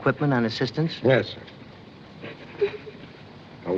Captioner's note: sobbing Continues